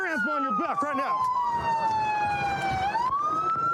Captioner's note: sirens blaring